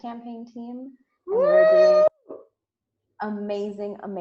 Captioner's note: screams